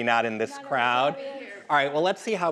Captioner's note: crowd members chattering